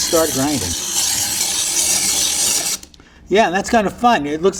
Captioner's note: ice screeching